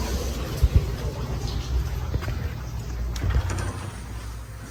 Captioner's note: quiet footsteps